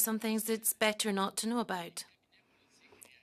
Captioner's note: speaking French